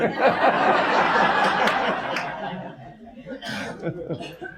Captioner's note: audience laughs